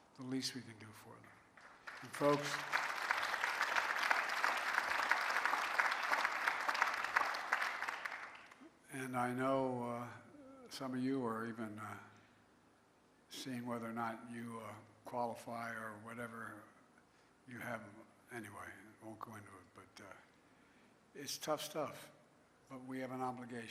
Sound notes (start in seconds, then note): 9.1 applause